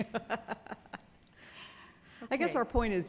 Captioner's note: laughs